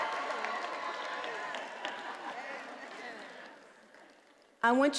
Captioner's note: attendees applauding and cheering